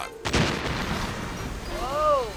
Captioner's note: whimsical music; explosion rumbling